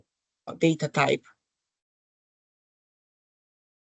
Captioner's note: silence